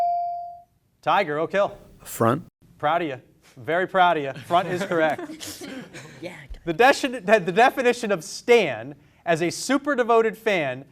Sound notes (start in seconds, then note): 4.6 students laughing